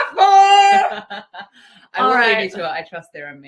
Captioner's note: laughs